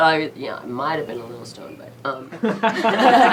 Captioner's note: laughs